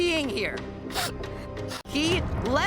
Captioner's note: sniffles